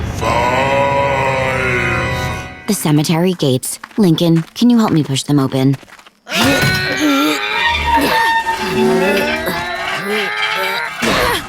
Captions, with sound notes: Five. The cemetery gates. Lincoln, can you help me push them open? [groaning] [gates squeaking] [groaning]